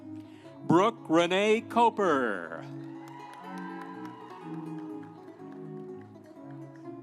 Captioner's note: audience cheering; instrumental music